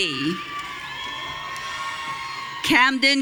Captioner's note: audience cheering